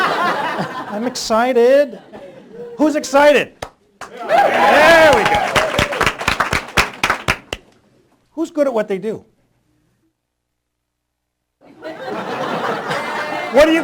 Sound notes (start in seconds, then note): 0.0 laughter; 4.0 applause; 4.0 cheering; 9.8 laughter